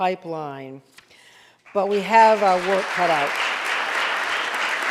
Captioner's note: audience applauding